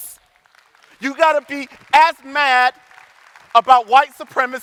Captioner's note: audience applauding